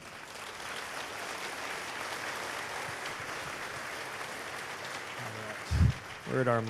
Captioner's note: cheers/applause